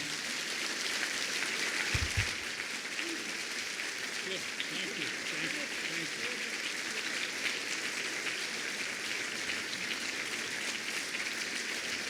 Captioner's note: applause